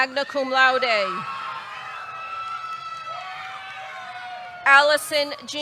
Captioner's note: audience cheering